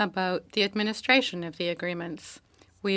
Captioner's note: speaking French